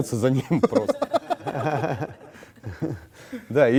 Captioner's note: laugh